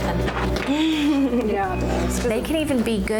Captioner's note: laughing